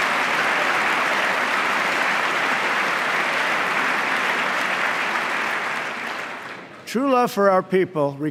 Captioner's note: applause